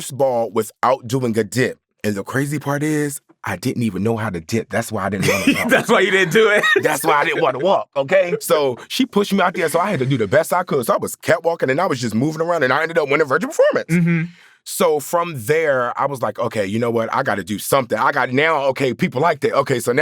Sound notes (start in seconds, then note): 5.2 laughs